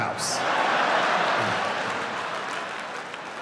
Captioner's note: laughing